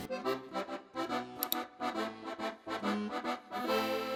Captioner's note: mouse click